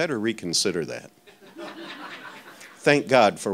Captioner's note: audience laughing